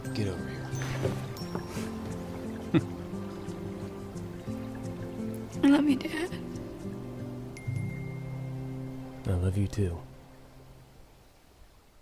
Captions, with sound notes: GET OVER HERE. HMPH! [TEARFULLY] I LOVE YOU, DAD. I LOVE YOU, TOO.